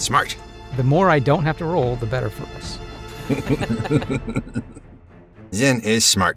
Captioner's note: chuckle